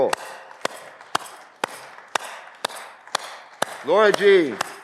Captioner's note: audience clapping